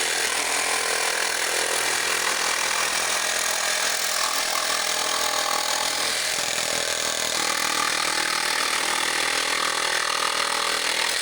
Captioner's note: drill whirring